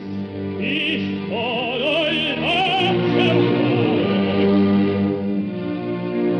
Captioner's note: with haughty scorn